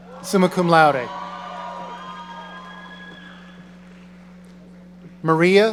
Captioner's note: audience cheering